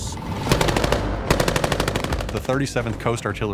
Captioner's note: guns firing